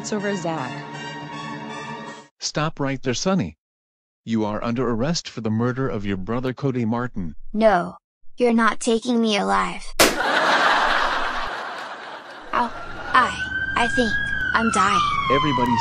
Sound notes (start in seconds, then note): 10.0 gunshot